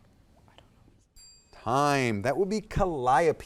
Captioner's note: timer dings